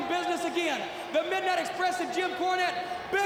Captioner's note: crowd chatter